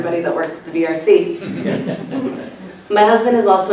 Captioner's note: laughter